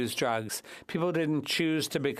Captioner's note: speaking French